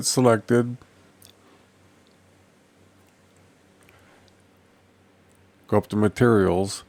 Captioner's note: silence